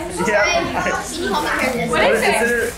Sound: chuckles; family chatters excitedly

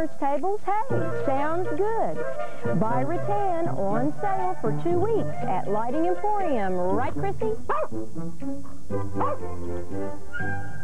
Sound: barking

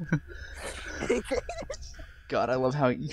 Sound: laughs

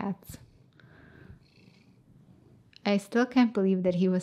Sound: Holden purring

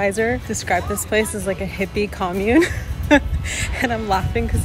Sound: laughing

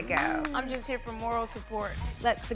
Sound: clapping

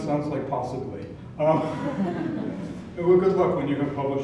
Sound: laugh

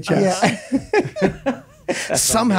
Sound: all laughing

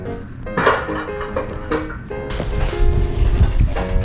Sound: a loud noise

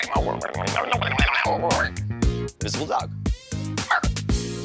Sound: blows air; imitating balloon squeaking

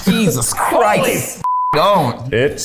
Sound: beep

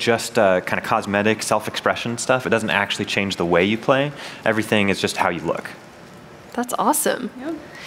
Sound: none

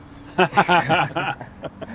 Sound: laughter

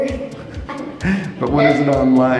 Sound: laughing

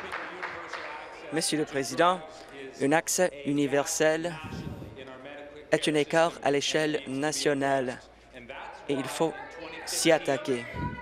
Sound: applause

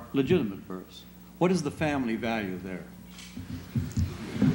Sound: laughter

